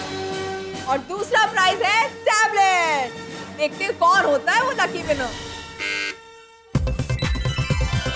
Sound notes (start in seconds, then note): 5.7 buzzer beeps